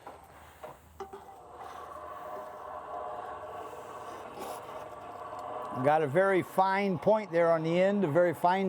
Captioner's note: whirring